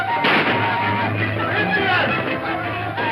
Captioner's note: gunshot